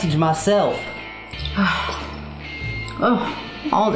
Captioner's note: disgusted sigh